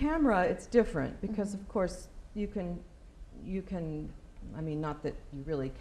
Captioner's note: none